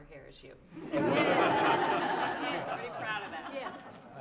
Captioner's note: laughter